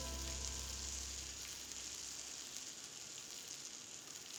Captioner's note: butter sizzling